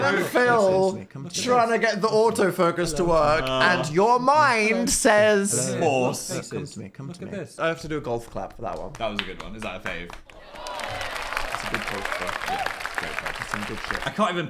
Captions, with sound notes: - Dan and Phil trying to get the auto focus to work. And your mind says- - Horse. - Come to me. - Look at this. - I have to do a golf clap for that one. (claps) - That was a good one. It is our fave. (claps) (audience claps) - That's a good one though. That's some good shit.